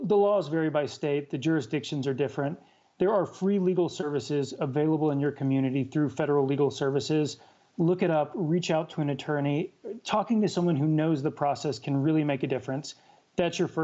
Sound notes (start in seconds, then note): none